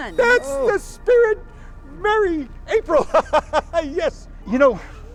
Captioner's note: laughs